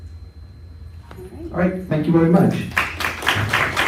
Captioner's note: applause